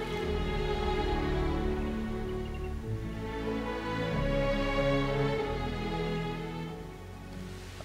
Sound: bird and wind noises

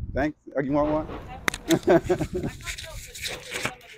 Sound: laughs

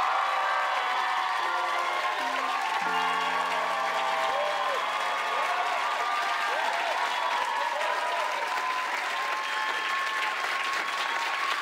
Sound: cheers and applause

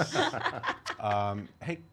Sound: laughter

